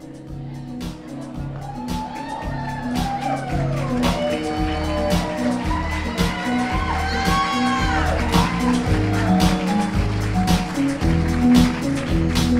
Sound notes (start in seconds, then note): 2.6 crowd applauds